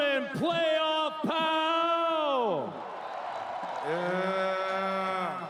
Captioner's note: cheering